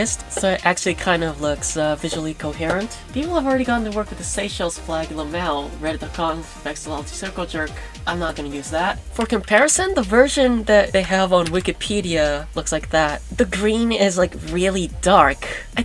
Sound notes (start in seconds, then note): none